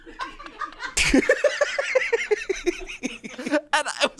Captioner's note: laughs